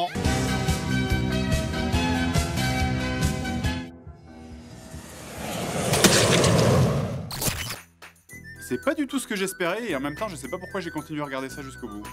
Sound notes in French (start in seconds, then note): 4.1 bruit d'avion; 5.9 splosh !